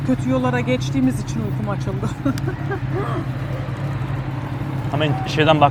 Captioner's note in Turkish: kahkaha